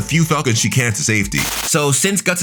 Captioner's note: TV static running